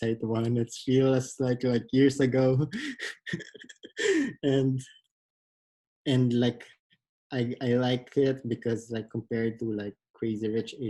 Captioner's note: laughs